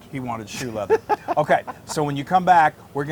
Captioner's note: laugh